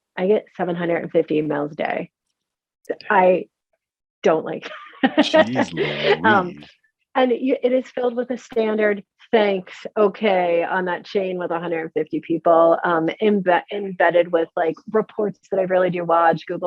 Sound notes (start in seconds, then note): 5.2 laughs